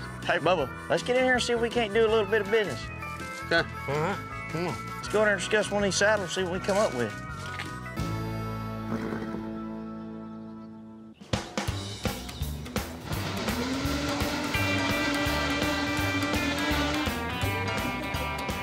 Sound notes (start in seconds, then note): 8.8 horse bluffs